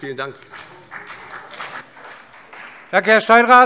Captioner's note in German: Beifall CDU und BÜNDNIS 90/DIE GRÜNEN